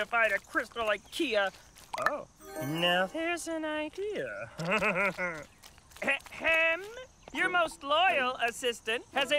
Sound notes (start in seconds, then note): 4.5 chuckles